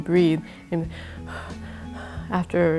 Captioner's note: gasping for breath